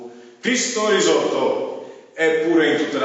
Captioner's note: repeated in Polish